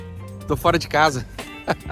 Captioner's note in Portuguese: risos